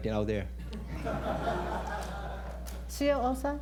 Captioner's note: laughter